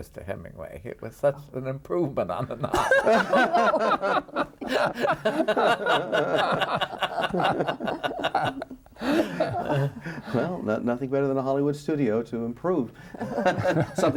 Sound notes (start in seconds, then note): 4.5 laughing